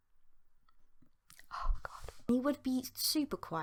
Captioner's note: whispering